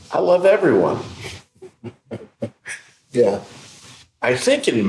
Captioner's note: laughing